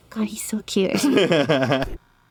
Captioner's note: laughs